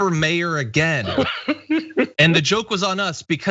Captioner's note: laugh